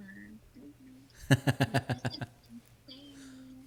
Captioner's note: laughing